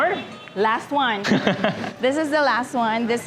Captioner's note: laughs